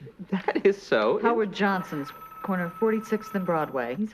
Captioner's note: phone ringing